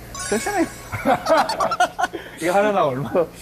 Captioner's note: ㅎㅎㅎㅎㅎㅎㅎ